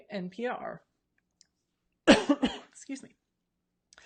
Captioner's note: coughs